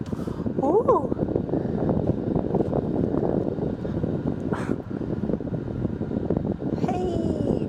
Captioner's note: windy sound